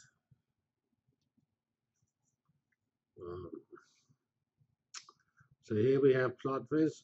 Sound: pause

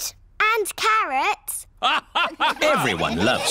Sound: all laugh

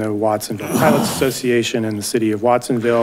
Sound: man coughing

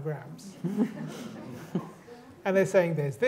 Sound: laughter

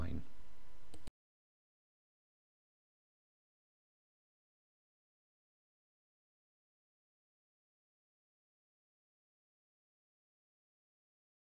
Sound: silence

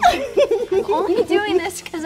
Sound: Lydia giggling

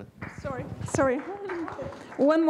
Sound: applause

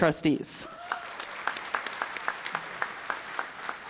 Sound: applause

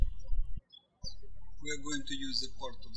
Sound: birds chirping

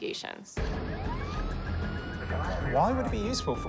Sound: siren

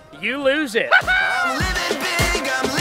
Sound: laughs

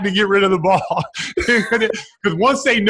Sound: laughs

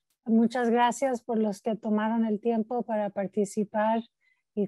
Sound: speaking in Spanish

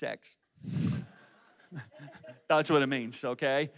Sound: audience laughs

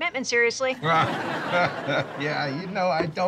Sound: laughs

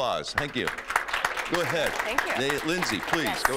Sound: applause

